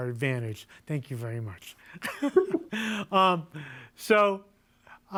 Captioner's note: laughs